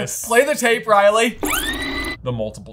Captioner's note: tape squeaking